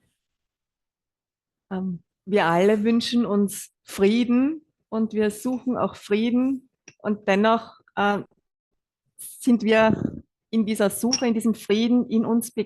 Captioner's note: German live translation